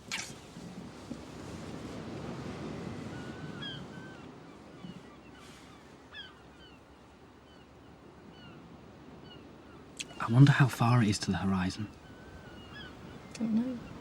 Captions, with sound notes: (Birds singing in distance) I wonder how far it is to the horizon? I don't know.